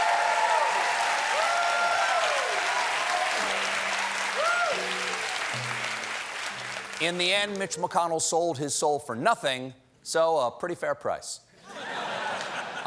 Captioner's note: cheers and applause